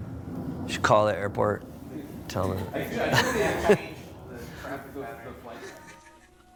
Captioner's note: laughs